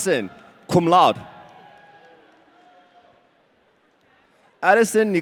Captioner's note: audience cheering